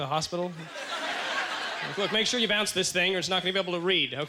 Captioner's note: audience laughter